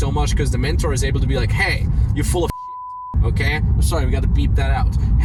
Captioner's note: beep